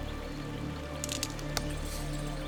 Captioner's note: twig snaps